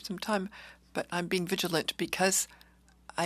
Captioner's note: speaking in French